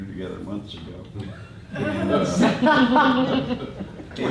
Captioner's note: laughter